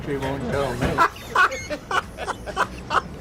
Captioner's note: laughs